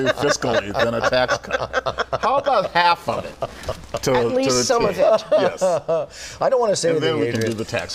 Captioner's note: laughter